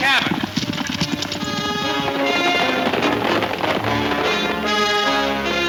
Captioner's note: hooves thundering